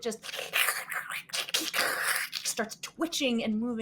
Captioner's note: hissing and spitting